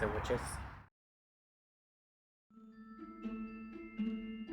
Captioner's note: silence